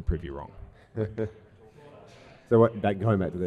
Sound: laughs

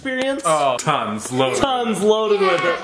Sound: laughs

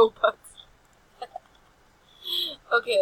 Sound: laughs

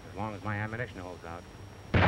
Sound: gunshots

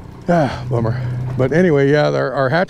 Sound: sighing

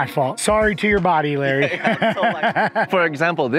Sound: laughs

